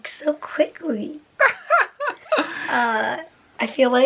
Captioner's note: laughter